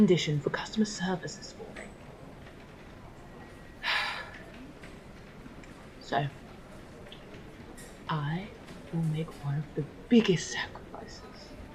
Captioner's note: sighing